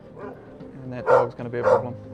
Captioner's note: dog barking